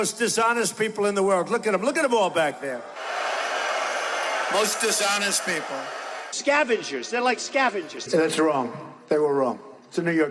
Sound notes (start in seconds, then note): 2.9 crowd booing